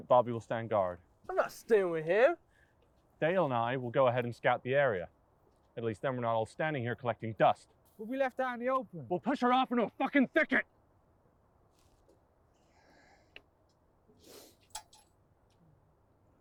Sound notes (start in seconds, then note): 14.2 sniffling